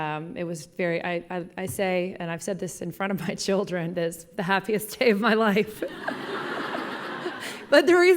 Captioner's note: laughing